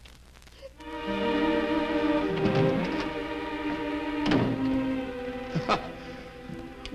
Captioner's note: Doris sobs; soft orchestral music; laughs